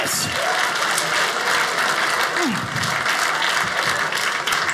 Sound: audience applauding

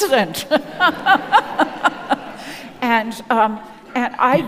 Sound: audience laughing

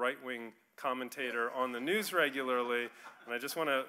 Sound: audience laughing

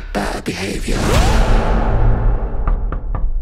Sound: logo booms; Barney knocks

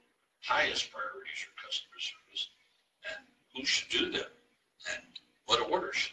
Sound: murmurs

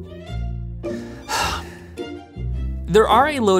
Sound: sighs

